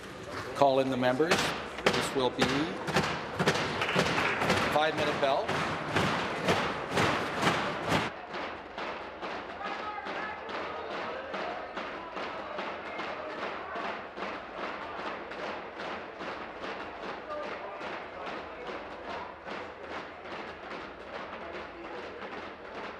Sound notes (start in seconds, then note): 8.6 rapping on desks